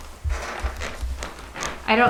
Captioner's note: bed creaking